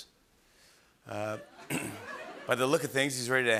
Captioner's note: laughter; clears throat